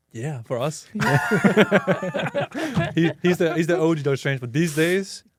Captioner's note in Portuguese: risos